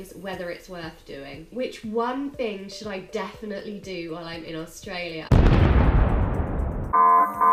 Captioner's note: explosion